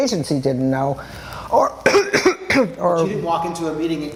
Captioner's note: coughs